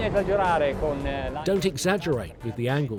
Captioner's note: speaks Italian